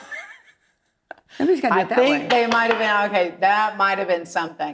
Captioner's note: chuckling